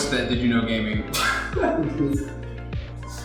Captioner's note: laughter